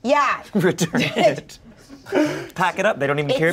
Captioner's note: laughs